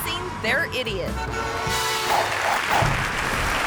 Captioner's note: car honks; audience clapping